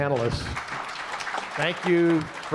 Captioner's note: audience applauding